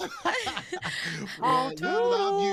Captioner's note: both laughing